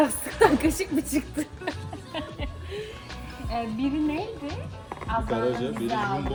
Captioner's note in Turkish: kahkaha